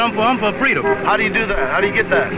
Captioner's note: car honking